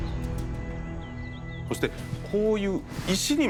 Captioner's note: speaking Japanese